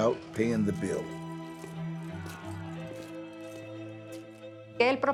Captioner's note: coins clinking; footsteps receding; in Spanish